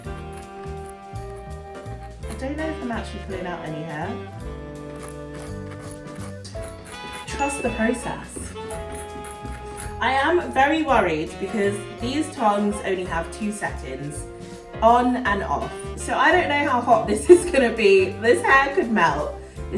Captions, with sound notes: (upbeat jazz music) (scratching noises) I don't know if I'm actually pulling out any hair. (scratching noises) (soothing jazz music) (pinging noise) Trust the process. (scratching noises) I am very worried because these tongs only have two settings: On and Off. So, I don't know how hot this is gonna be. This hair could melt.